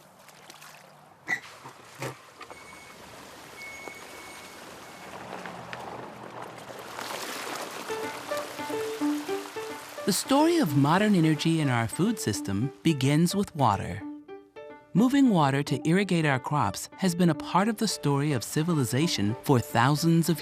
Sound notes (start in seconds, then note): 0.1 creaking of wheel; 4.3 water rushing